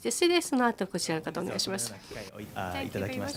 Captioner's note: speaking japanese